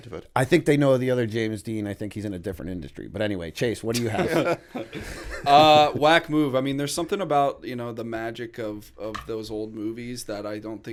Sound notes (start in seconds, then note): 3.9 laughter